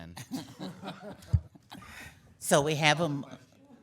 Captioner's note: laughing